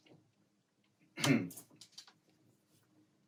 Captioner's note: chuckles